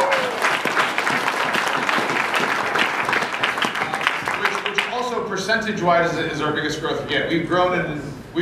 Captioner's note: applause